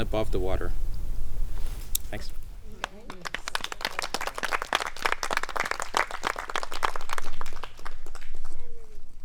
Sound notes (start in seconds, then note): 2.8 applause; 3.3 murmurs of approval